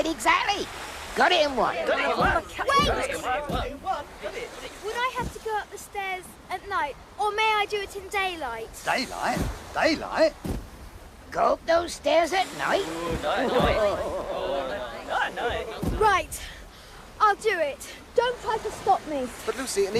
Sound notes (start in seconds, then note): 2.0 chatter and stomping; 10.4 stomping feet; 12.8 laughter and chatter